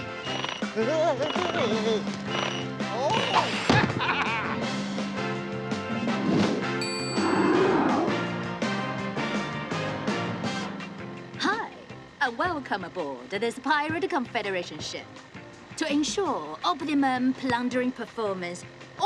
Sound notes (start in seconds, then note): 0.0 rhythmic music; 2.8 laughing